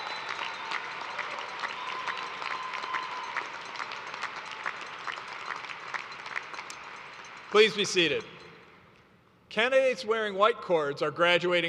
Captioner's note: cheers and applause